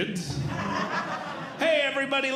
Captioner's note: audience Laughing